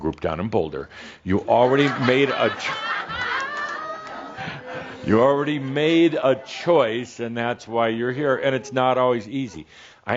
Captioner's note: laughter